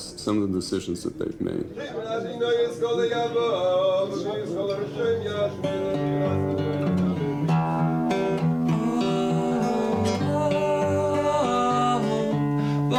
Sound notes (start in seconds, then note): 1.9 man speaking in foreign language; 5.0 gentle guitar music